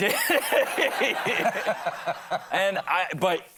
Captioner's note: laughter